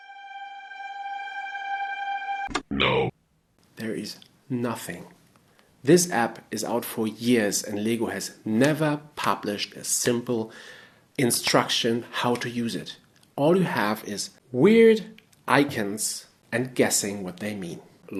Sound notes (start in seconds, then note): 2.6 robotic voice